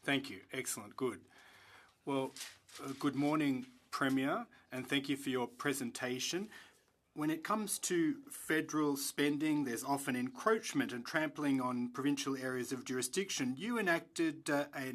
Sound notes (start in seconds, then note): 3.1 speaking French